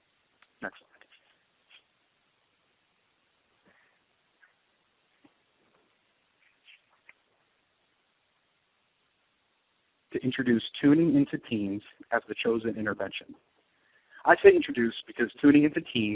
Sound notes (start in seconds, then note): 0.8 silence